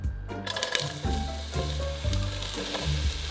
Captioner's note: sizzling